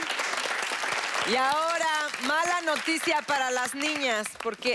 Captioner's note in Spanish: Aplausos